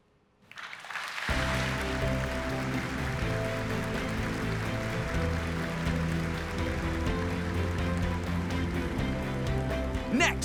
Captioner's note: applause